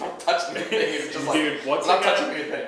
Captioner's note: laughing